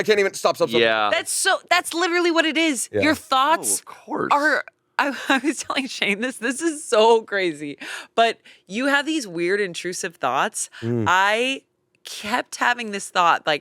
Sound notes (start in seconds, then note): 4.8 chuckles